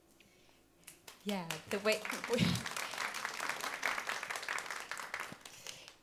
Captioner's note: audience applauding